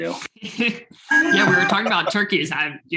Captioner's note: laughing